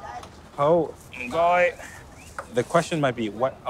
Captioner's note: speaks in foreign language